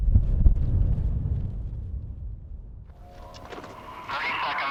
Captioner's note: wind blowing